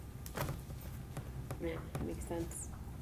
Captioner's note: none